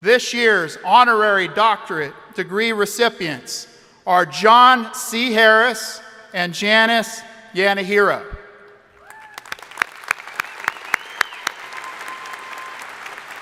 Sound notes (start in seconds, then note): 9.0 crowd applauding